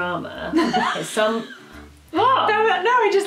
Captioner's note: laughing